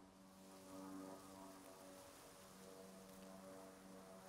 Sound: airplane engine

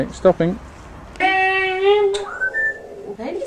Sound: stroppy baby noise

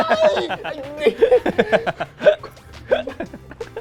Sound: laughs

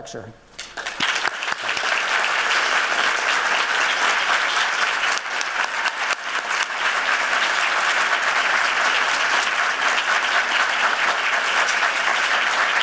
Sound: applauding

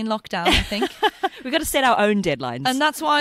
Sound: laughs

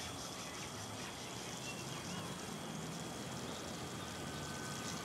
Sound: water running

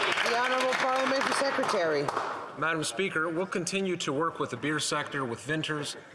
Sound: some Applause

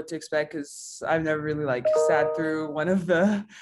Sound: chime

